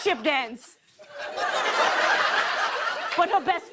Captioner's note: laughter